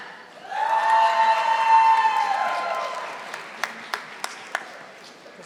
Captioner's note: audience applauding